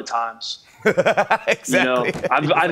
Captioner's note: laughs